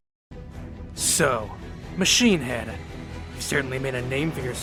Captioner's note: dramatically